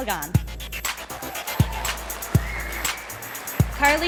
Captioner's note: sound of applause and cheering from the audience